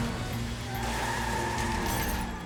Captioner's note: tires screeching